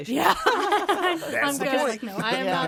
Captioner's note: all laughing